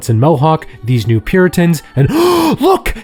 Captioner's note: gasps